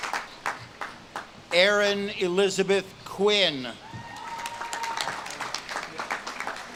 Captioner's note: audience claps and cheers